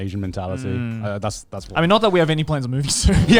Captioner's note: laughs